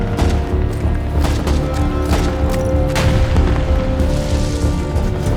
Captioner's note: dramatic music continues; gunshots sounding